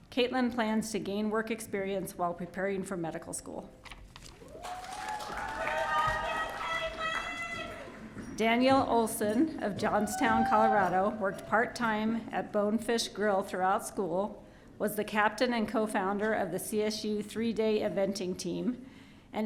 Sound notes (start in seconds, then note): 4.4 audience cheering